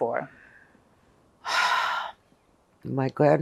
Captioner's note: sighing